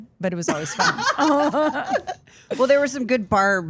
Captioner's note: Steph laughs